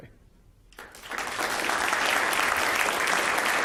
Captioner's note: applause